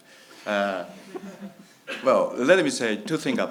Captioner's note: laughs